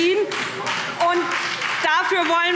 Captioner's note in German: Beifall SPD und Freie Demokraten